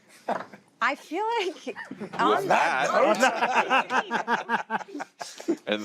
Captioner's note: chuckles; laughter